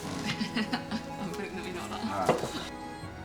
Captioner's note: laughs